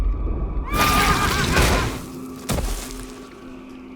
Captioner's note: horse whinnies; wind howls